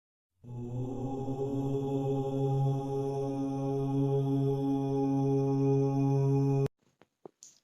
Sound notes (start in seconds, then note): 0.4 chant